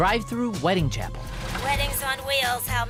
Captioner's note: car stops